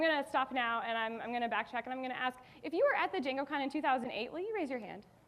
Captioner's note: none